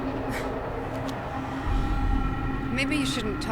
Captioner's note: sighs